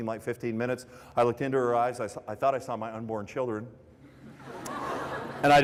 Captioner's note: laughter